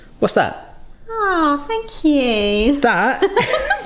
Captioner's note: laughing